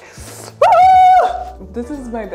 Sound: screams

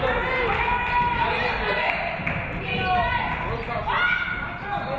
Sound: audience cheering

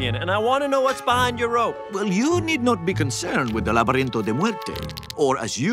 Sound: spanish

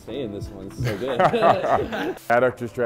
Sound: laughing

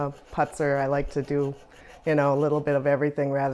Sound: soft scraping

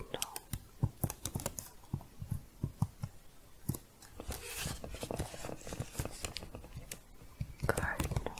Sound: typing, then shuffling

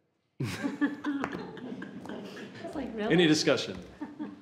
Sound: laughing

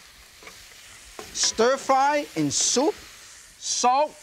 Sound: pan clinking

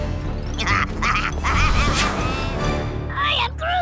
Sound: laughing

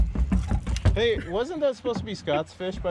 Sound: chuckling

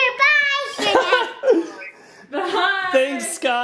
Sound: laughing

